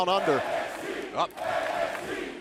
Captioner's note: crowd cheering